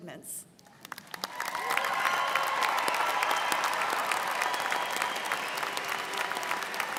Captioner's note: students cheering and applauding